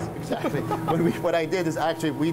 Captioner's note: laughter